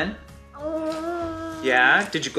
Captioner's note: boy groaning